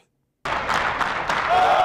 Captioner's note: cheers